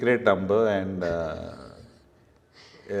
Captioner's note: chuckles